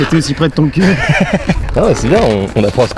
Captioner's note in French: rires